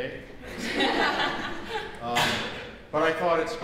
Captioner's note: laughter